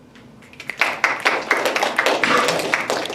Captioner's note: applause